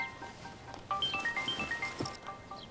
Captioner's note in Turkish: Telefon çalıyor